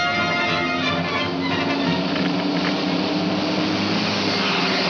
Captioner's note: radio crackles